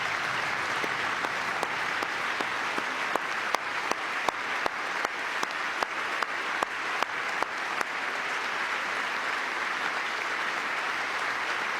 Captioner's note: applause